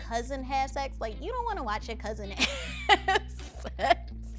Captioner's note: laughing